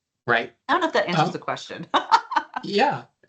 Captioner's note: laughing